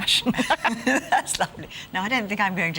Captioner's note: group laughs